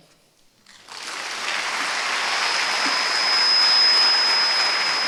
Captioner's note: applause